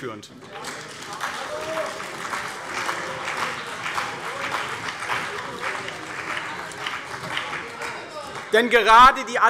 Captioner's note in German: Beifall CDU und BÜNDNIS 90/DIE GRÜNEN